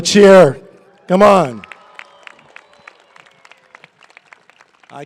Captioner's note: cheering and applause